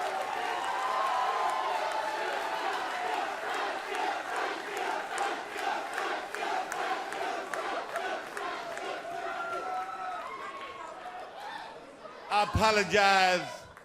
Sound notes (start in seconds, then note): 0.2 crowd cheering; 2.2 crowd chatter